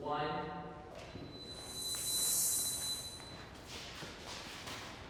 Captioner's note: pitch whirring